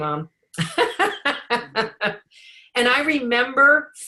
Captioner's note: laughing